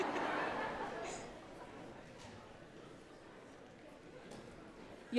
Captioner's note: audience laughs